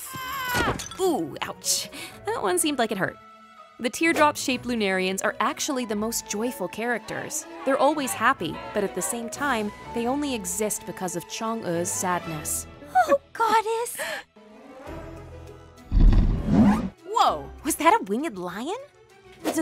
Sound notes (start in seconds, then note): 0.2 Chin yelling; 0.2 clattering; 16.2 winged lion growls